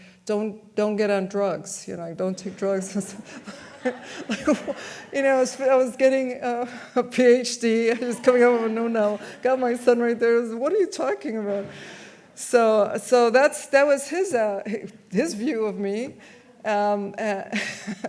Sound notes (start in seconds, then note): 2.3 audience laughs; 15.4 laughs